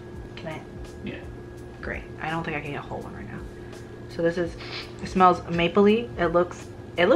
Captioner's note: sniff sniff